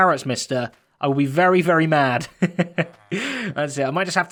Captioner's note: chuckles